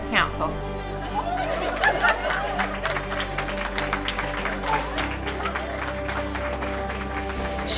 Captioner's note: laughter and applause